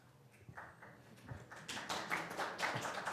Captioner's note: applause